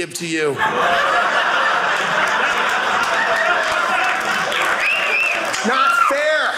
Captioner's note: audience applauding